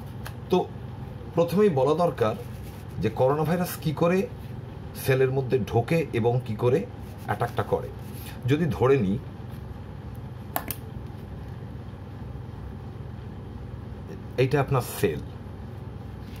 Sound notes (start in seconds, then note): 10.6 pen clicks